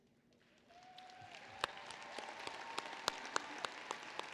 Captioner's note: applause